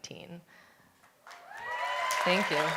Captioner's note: applause